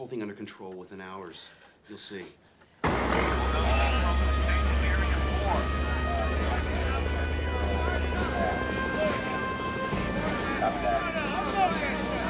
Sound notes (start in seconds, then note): 5.3 men chattering; 7.3 helicopter whirring